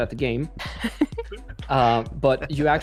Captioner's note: laughter